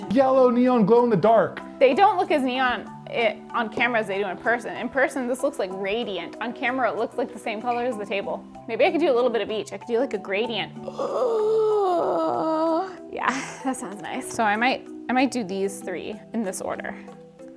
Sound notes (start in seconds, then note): 10.8 long gasp